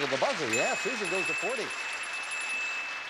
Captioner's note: bell ringing